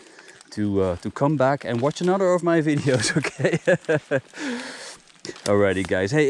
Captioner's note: laughs